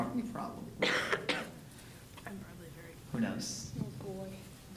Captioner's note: coughing